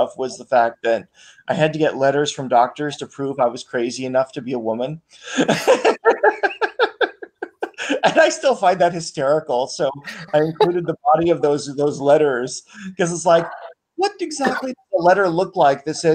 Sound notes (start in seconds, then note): 5.3 laughs